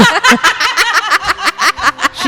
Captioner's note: laughter